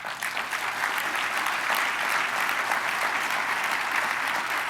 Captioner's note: applause